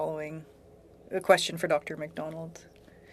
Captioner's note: speaking French